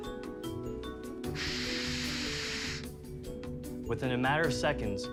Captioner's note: air whooshing